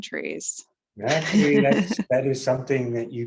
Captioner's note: chuckles